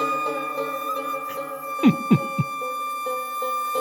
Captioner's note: coughing